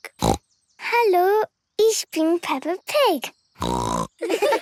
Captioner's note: snorting; snorting; laughter